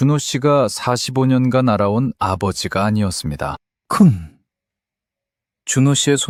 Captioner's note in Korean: 목을 가다듬음